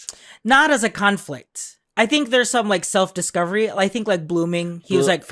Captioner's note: none